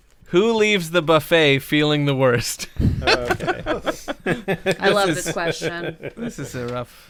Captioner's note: laughter